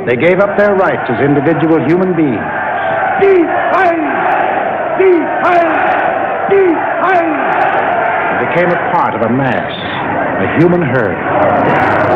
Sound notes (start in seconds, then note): 3.4 crowd shouting; 3.4 man chanting